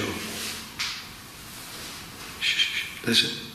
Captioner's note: faint tapping